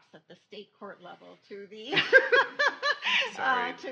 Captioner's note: laughs